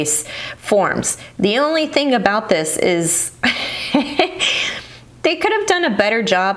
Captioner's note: laughs